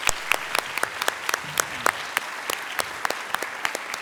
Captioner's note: applause